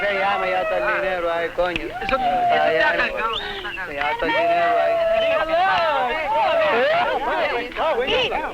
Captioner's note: laughter